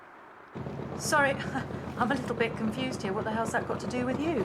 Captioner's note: chuckles